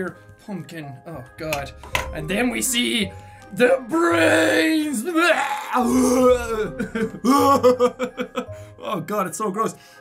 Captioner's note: retching and giggling